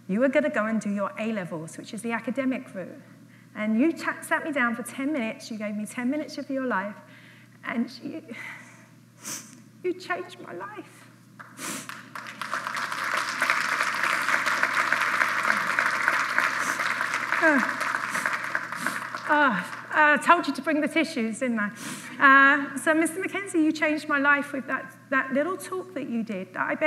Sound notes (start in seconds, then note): 14.1 applause